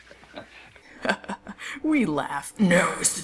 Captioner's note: chuckles; chuckling